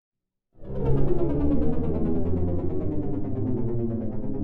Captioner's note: aircraft whirring